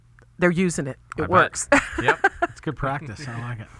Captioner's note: laughs